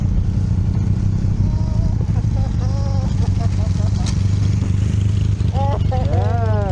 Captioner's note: excited laughter